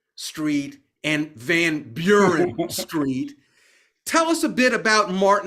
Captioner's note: laughing